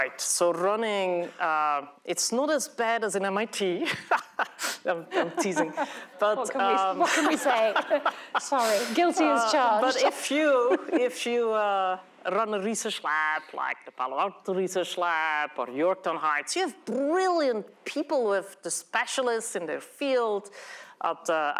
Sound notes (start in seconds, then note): 4.0 laughs